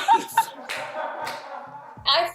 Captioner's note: laughter